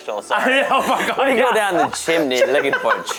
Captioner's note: laughs